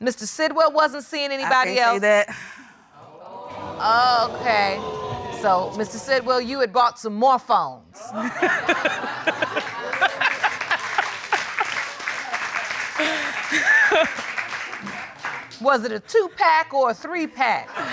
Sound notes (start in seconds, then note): 3.3 audience exclaiming; 8.0 laughing; 8.0 audience laughing